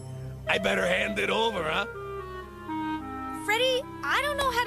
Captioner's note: none